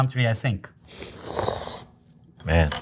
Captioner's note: chefs slurping